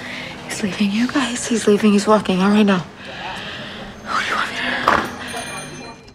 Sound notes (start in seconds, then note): 3.1 whispering